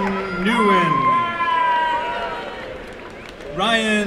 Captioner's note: applause and cheering